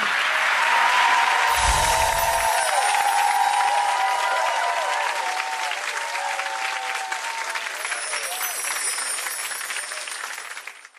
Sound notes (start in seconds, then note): 0.1 cheering; 1.4 chimes